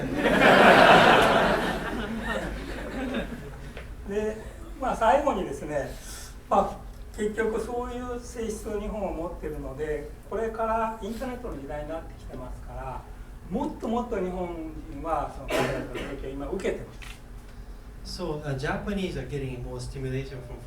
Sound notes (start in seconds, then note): 0.0 laughing; 4.2 speaking in foreign language; 15.4 coughing